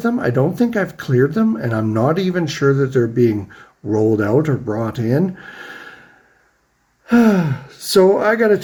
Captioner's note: sighs